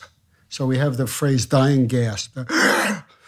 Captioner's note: inhales